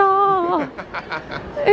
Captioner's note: laughing